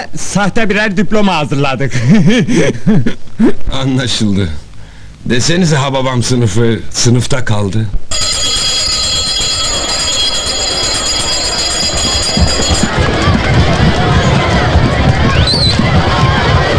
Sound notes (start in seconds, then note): 8.1 bell ringing and the noise of students running through stairs